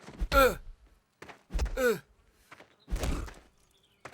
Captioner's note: punches thudding